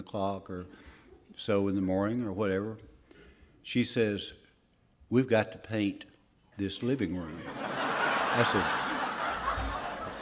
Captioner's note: laughter